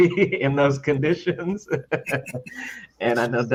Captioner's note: laughs